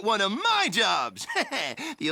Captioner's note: Knuckles laughs